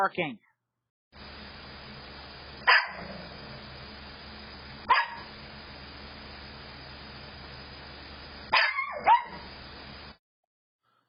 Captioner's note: Ella continues barking